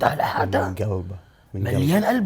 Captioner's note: whispers